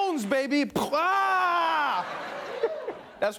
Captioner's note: laughter